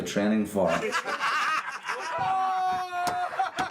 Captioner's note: all laughing